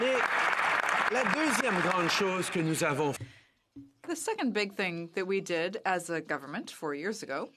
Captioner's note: some Applause